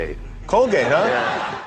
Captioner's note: audience laughs